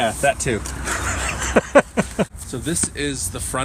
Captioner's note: laughs